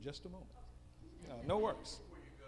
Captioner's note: female audience member speaking